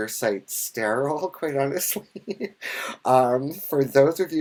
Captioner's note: laughs